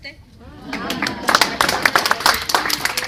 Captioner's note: applause